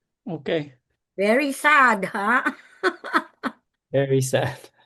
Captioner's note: laughs